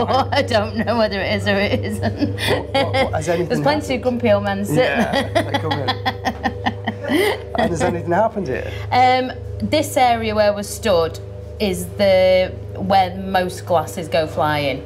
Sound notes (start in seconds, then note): 4.7 laughing